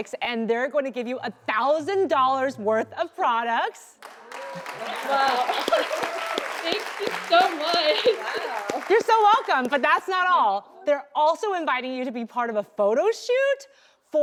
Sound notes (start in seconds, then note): 4.0 applause